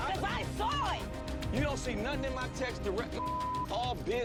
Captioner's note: beep